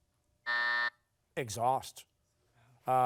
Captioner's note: buzzer